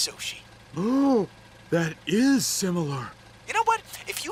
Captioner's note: gasps